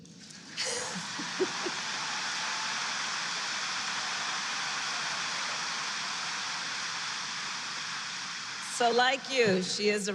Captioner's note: applause